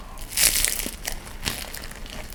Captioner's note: crunchy